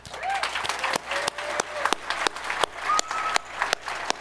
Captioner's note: audience applauding